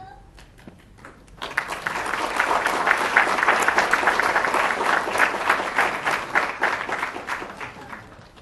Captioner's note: applause